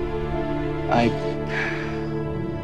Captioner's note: Sighs